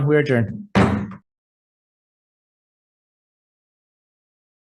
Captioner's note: gavel thuds